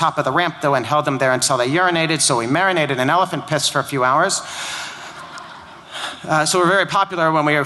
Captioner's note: laughter